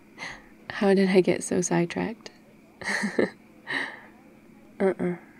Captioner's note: laughs